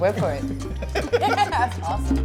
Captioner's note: laughter